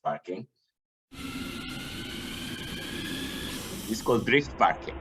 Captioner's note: remote control car skidding